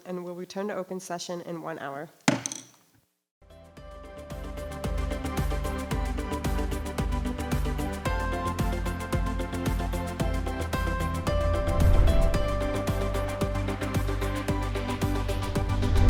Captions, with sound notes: and will return to open session in one hour. (gavel bangs) (bright music)